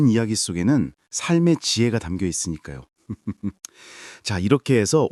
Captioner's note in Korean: 웃음